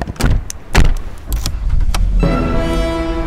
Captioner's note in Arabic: تشغيل محرك السيارة